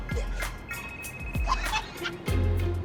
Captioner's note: phone ringing, Abby laughing